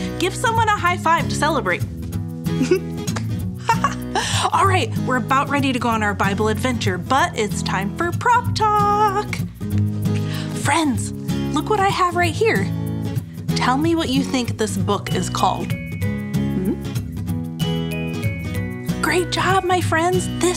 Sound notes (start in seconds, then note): 2.0 playful music; 3.6 laughing; 15.8 playful music